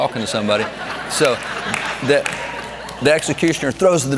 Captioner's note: audience laughs